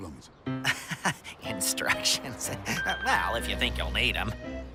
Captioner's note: amused chuckle